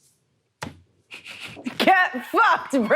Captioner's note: snickers awkwardly